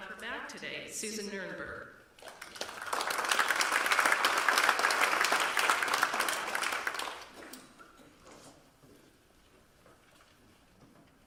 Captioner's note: applause